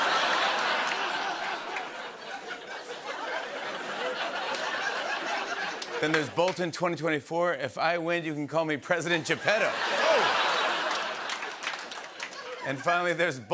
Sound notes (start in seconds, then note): 0.0 laughter; 9.3 laughter